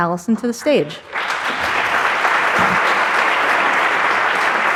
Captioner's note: audience applauding